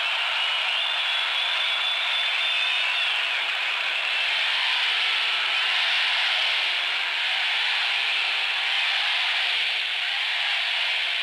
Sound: cheering, KEN-NE-DY, KEN-NE-DY

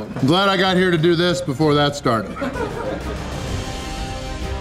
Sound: crowd laughter

